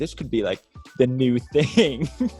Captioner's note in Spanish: risas